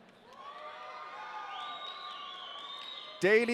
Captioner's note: audience cheering